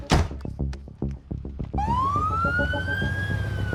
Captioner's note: sirens blaring